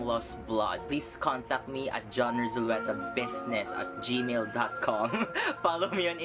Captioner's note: laughs